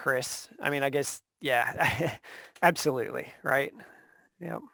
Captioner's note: laughs